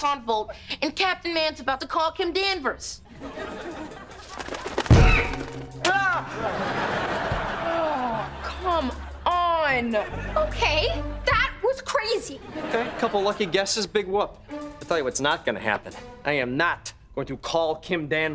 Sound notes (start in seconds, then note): 4.8 squawking; 4.9 shrieking